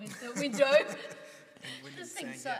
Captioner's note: laughs